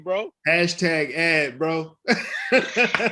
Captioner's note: laughs